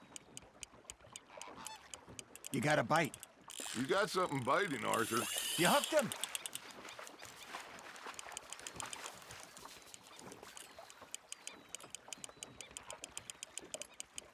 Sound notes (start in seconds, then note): none